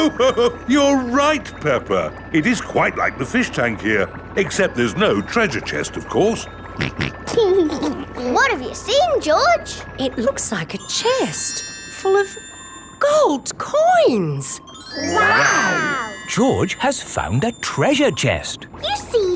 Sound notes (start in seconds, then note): 0.8 laughs; 6.8 snorts and laughs